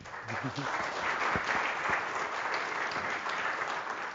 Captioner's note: audience applauding